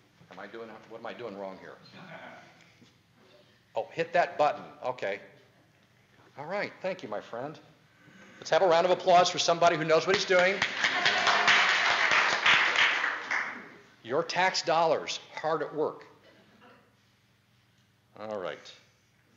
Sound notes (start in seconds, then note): 9.8 audience applause